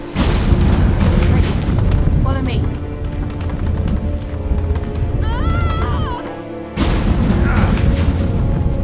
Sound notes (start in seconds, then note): 0.1 portal rumbling; 5.2 scream; 7.3 groan